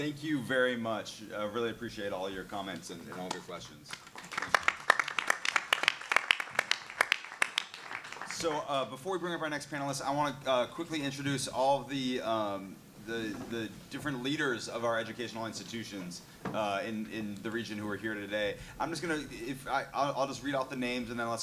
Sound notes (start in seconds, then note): 6.1 clapping